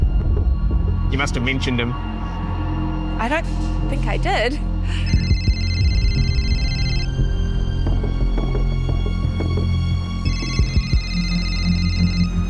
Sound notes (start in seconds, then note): 5.0 cell phone rings; 9.7 suspenseful music continues